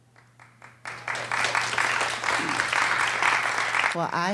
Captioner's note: audience clapping